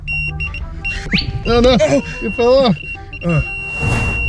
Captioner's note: repeated beeping; high pitched whoosh; camera wooshes in